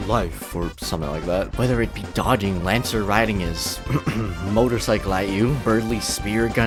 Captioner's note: ahem